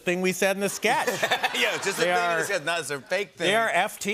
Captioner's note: laughter